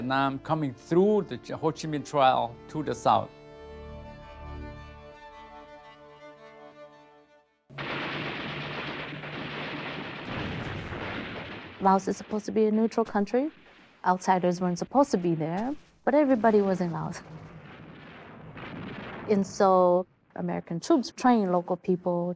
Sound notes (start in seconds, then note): 4.2 gentle music continues; 7.7 guns booming; 10.8 explosions booming